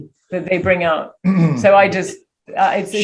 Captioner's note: Daniel clears throat